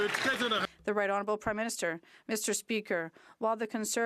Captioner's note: some Applause